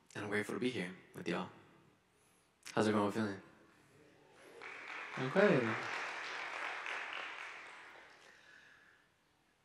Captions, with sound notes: and I'm grateful to be here with y'all. How's everyone feeling? (audience applauding) okay.